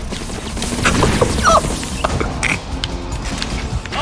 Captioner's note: laughs to myself